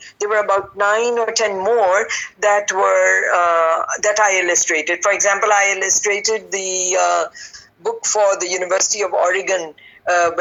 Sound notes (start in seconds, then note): none